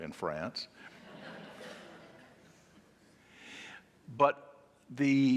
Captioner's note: audience laughing